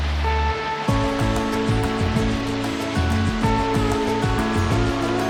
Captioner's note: sounds of running water